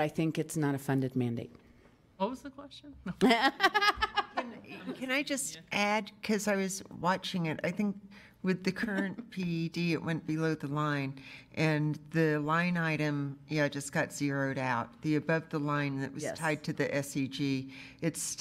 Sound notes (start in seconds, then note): 3.2 laughter